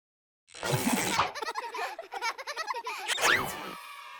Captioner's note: children laughing